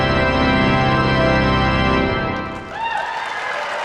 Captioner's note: cheers and applause